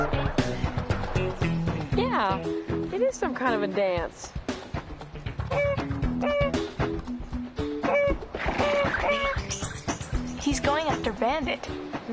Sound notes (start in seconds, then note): 5.4 goose quacks; 8.3 horse snorts